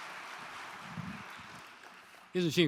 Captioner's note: applause